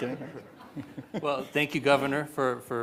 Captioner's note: audience laughing